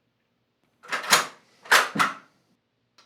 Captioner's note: rifle clicks